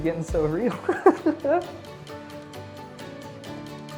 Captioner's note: laughs